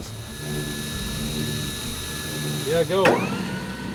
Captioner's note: motor whirs